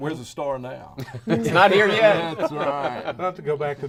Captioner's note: laughing